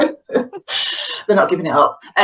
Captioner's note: laughing